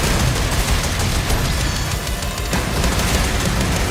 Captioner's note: sawblade whines